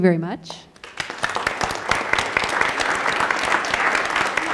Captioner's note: applause